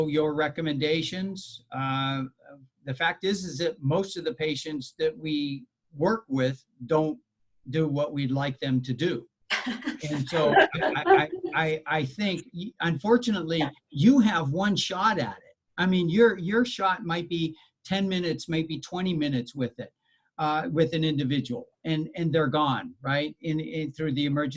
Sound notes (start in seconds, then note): 10.0 laughter